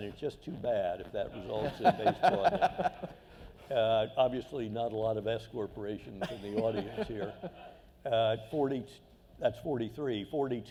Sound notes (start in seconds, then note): 3.5 laughter